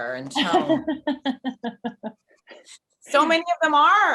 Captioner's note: Jessie laughing